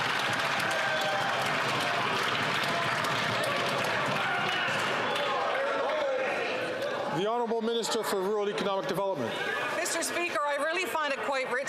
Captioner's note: some Applause